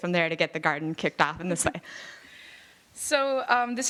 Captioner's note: none